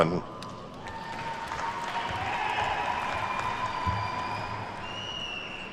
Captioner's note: attendees cheer and clap